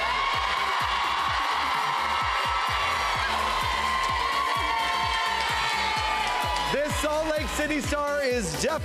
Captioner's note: cheers and applause